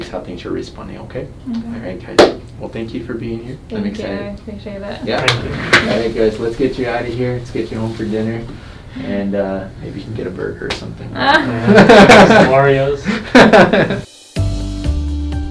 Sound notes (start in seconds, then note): 11.2 laughs